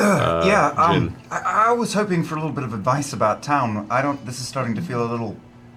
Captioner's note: clears throat